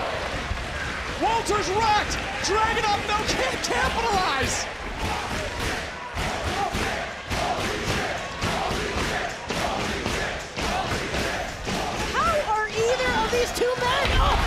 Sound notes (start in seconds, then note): 3.9 crowd chanting